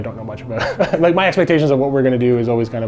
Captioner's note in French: en riant